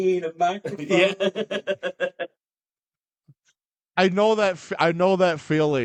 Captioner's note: laughing